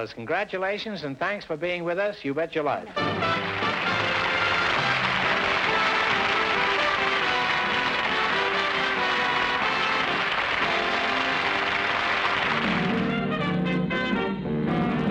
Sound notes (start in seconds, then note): 2.9 music and applause